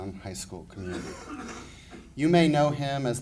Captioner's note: coughing